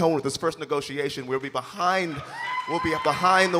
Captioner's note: audience cheering